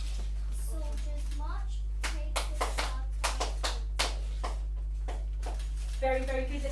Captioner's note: child claps